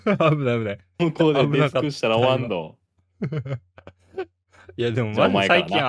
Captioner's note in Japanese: 笑い